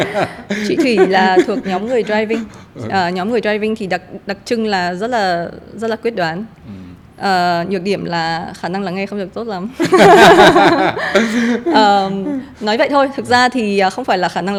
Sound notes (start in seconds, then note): 0.0 laugh; 10.0 laugh